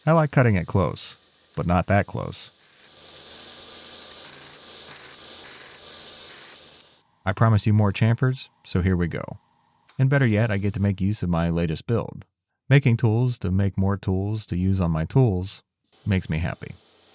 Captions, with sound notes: I like cutting it close, but not that close. (machine whirring) I promised you more chamfers, so here we go. And better yet, I get to make use of my latest build. Making tools to make more tools to use on my tools makes me happy.